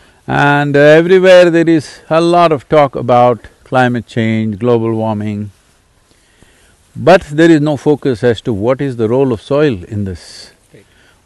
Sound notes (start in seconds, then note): none